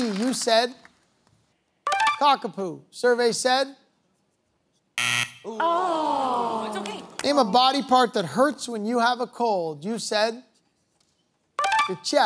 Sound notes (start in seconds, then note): 5.0 buzzer sounds